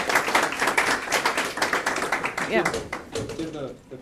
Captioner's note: applause